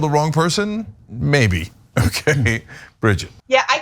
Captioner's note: laugh